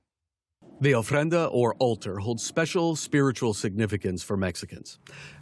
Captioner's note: voice-over